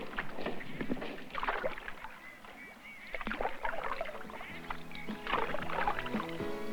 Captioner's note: sounds of paddling in water